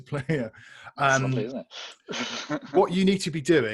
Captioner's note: laughs